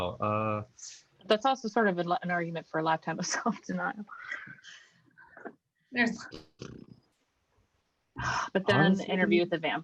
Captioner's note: laughs